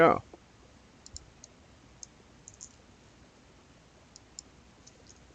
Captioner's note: mouse clicking